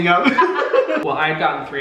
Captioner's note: Hyram laughing; laughing